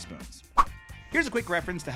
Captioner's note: air wooshing